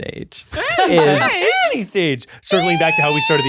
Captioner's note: laughing; mocking